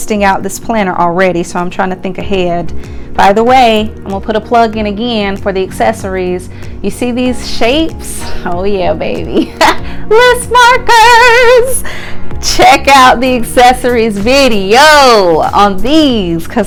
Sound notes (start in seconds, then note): 9.7 laughs